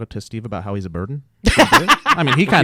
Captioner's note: laughing